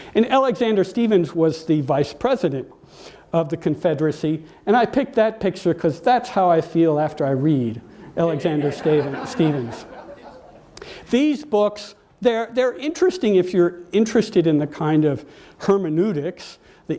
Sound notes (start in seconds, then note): 8.2 audience laughs